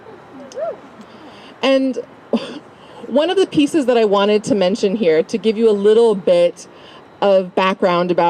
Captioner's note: laugh